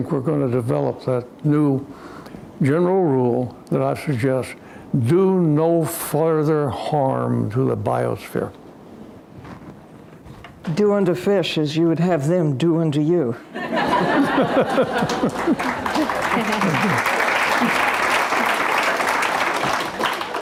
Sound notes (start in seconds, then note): 14.8 applause